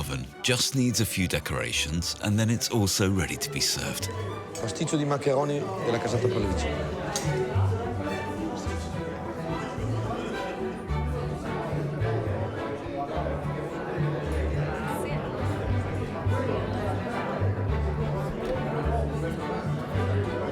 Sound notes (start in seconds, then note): 4.7 speaks in foreign language; 9.0 people chattering